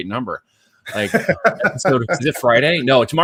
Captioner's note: laughing